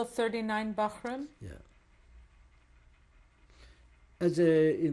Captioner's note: pauses for 3 seconds